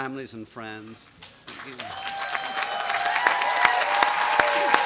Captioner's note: applause